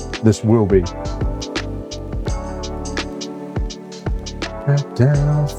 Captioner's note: humming